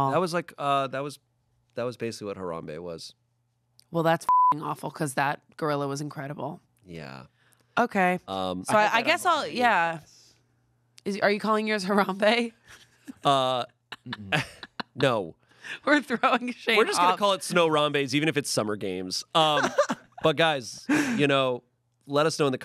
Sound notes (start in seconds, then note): 4.2 beep; 14.0 laughs